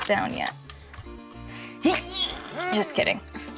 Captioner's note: straining